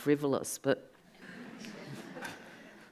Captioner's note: audience laughs